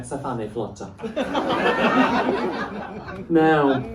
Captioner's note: laughter